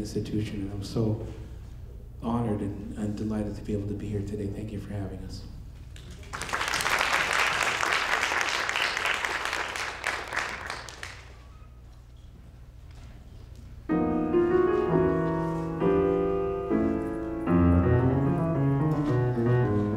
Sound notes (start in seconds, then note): 6.0 audience applauding; 13.9 smooth jazz music